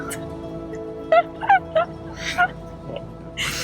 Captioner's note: laughing